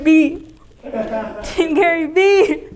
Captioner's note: laughing